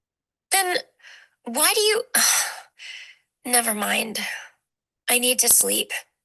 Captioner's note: sighs